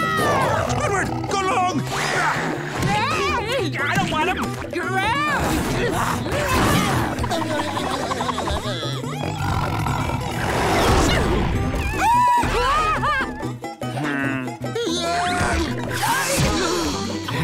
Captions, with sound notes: Squidward, go long! I don't want him! Gross! [growling] [shrieking] Heh.